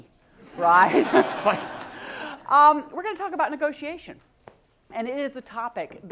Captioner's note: laugh